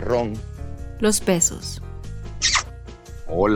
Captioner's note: kisses